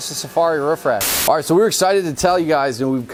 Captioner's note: static